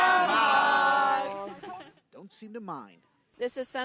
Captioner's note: laughter